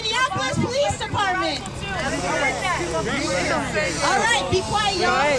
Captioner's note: crowd hushing